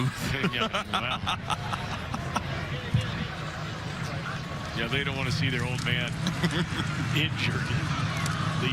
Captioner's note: laughter